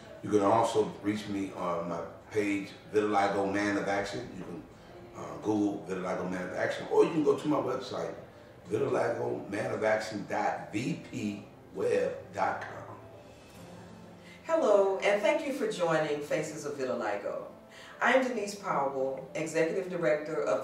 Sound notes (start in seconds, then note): none